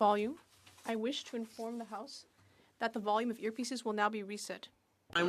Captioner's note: speaking French